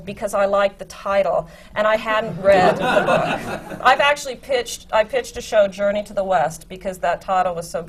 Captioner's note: laughter